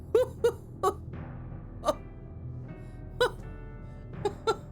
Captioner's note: laughs